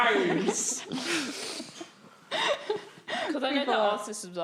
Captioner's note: laughing